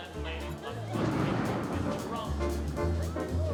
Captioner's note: thunder